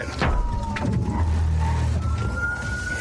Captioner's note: thuds